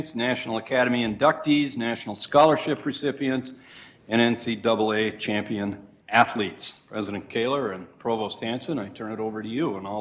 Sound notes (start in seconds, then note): none